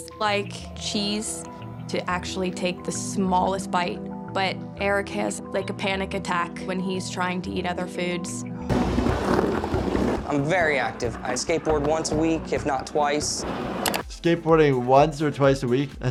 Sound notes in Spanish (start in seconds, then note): 8.7 Patineta rodando